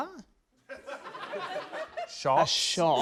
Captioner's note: scattered laughter